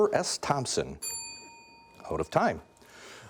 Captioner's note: bell dinging